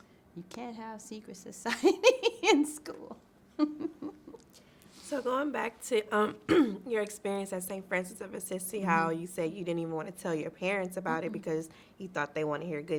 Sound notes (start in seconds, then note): 3.6 laughs